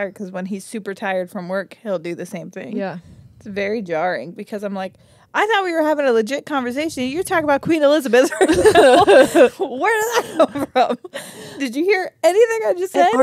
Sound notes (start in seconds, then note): 8.3 laugh